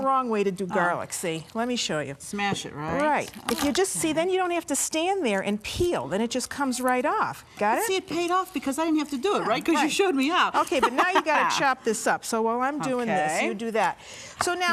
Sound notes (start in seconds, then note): 10.6 laughing